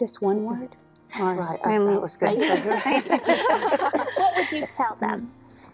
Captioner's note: laughter